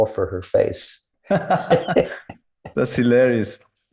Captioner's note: both laughing